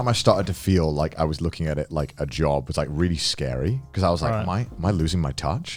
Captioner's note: none